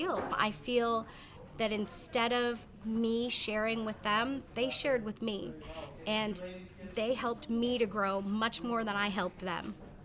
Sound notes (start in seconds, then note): none